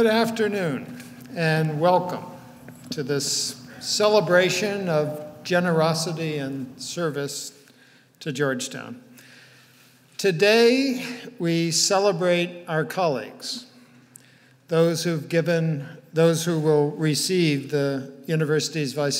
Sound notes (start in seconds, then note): none